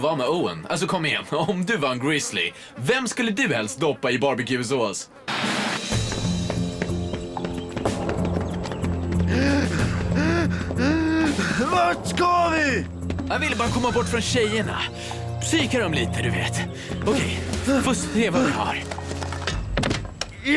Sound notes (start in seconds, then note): 9.2 wheezing